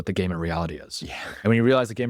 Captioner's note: laughs